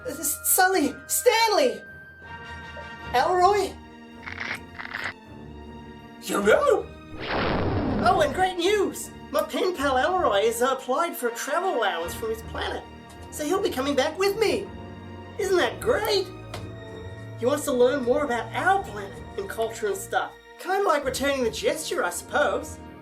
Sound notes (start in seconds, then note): 4.2 Crunching on Snackaroonies; 7.2 booming SFX